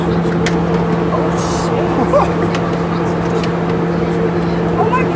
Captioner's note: laughs